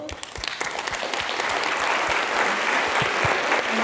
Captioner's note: applause